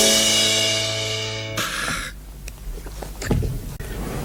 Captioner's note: angry McMahon noise